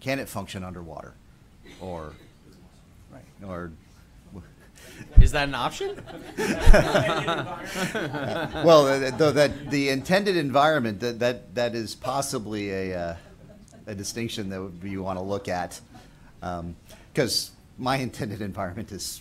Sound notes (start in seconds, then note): 9.6 laughter